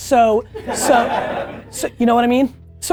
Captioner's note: team laughing